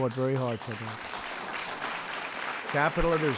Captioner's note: applause